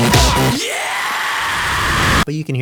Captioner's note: huge scream